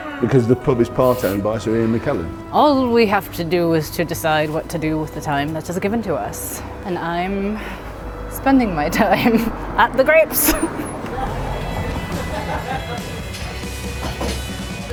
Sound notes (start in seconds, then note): 1.0 gasps; 10.2 laughs; 12.2 upbeat music